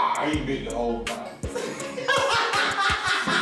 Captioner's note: both laugh